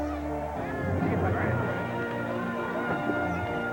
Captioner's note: crowd cheering